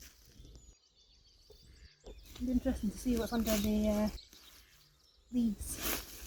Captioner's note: rustling